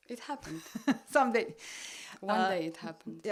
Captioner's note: laugh